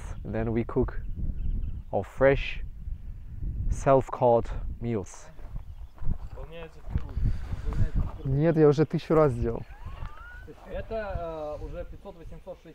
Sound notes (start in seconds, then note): 6.3 wind blowing; 7.1 people speaking foreign language